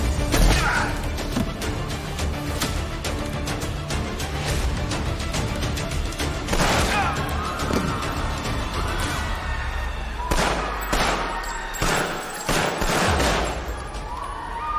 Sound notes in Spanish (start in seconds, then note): 6.4 Disparos; 8.5 Gritos y algarabía; 10.2 Disparos